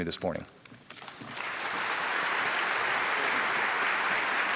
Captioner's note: audience applauding